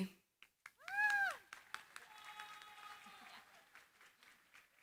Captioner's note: applause